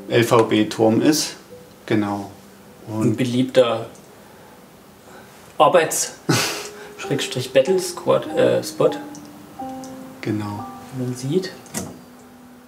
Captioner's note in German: prustet